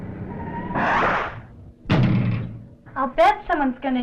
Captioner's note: air whooshes